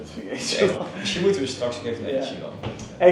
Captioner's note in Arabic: بالهولندية